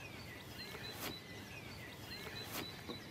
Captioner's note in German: Vogelzwitschern